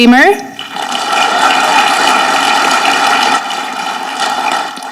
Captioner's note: audience clapping